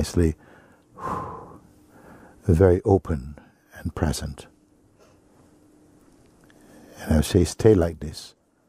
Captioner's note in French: expire profondément